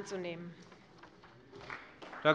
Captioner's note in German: Beifall bei der CDU